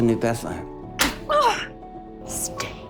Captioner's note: Alanis slaps Serena; Serena groans in pain